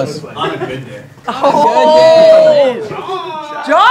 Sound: group exclaiming

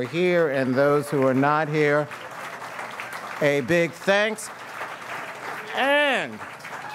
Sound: audience cheers and applauds

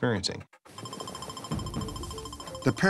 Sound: device beeping

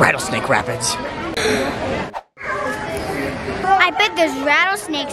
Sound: gasp

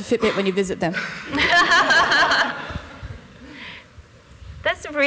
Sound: laughter

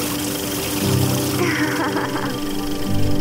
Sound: laughter

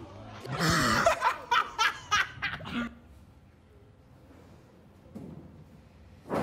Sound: man laughing; congregation gasping

